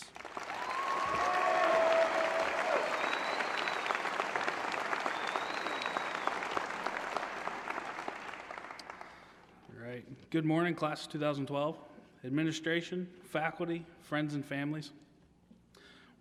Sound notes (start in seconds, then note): 0.0 applause; 4.5 cheers